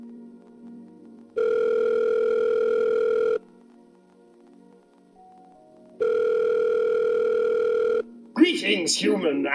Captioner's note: phone Rings